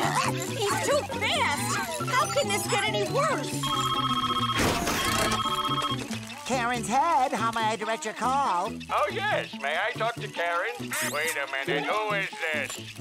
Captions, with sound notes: He's too fast. How could this get any worse? [phone ringing] Karen's head, how may I direct your call? Oh, yes. May I talk to Karen? Wait a minute. Who is this?